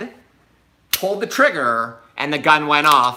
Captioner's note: gun clicks